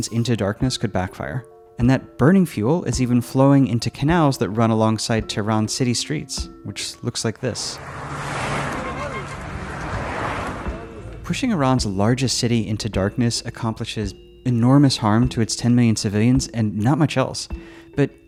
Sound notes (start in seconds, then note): 7.4 traffic buzzing; 7.6 horns honking